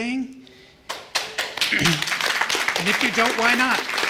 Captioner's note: applause